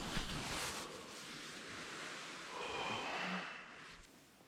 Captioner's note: shuffling